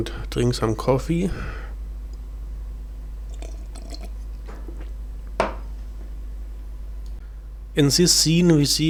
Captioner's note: cofffee sound